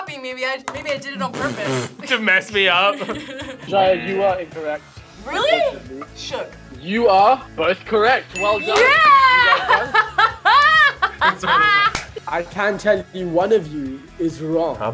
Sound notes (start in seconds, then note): 2.8 both laugh; 8.8 laughs